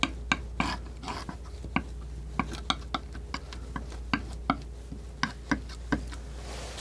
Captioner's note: scraping